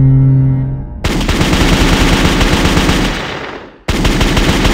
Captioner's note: horn blows; shots firing